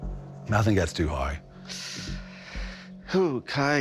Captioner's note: inhales sharply